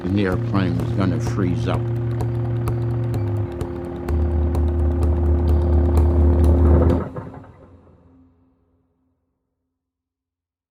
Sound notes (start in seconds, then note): 2.5 intense music; 5.0 airplane engine intensely roaring